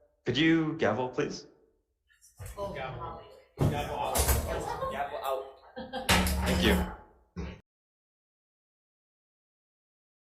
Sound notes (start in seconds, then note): 3.6 senate members chattering; 6.1 gavel thumps